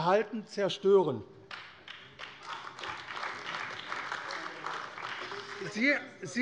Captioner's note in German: Beifall AfD - Lachen SPD